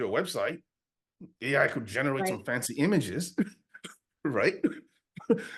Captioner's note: laughs